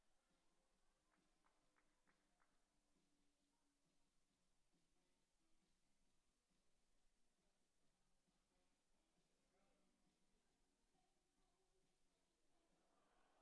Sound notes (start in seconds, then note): 0.5 applause